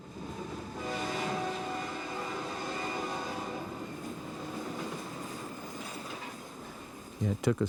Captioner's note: train whistle